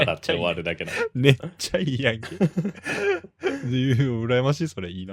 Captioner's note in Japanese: 笑い